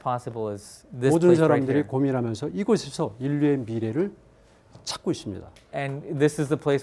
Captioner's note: speaking in Korean